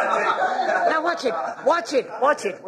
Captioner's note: laughter